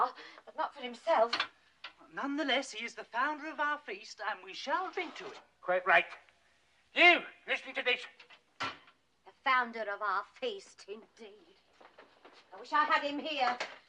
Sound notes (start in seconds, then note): none